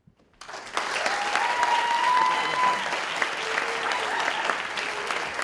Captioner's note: audience cheering and applauding